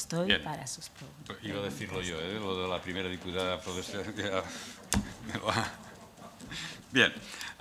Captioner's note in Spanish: Risas